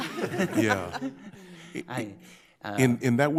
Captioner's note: everyone laughs